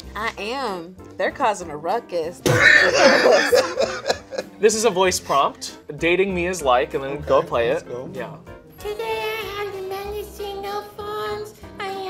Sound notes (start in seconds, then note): 2.4 laughing